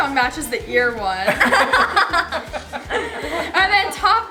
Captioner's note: family laughing